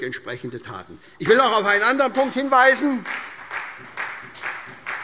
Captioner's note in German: Beifall SPD